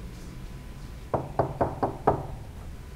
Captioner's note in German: Türklopfen